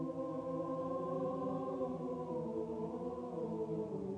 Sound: people humming

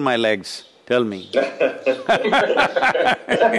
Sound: laughter

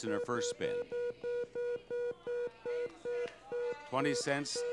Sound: machine beeping

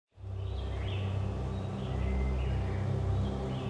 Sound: birds chirping; relaxing nature music

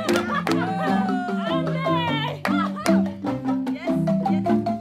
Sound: laughter

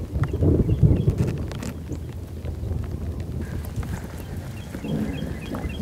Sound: rain pattering and thunder

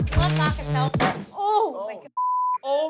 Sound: smacking sound

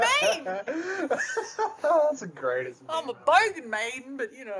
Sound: laughing

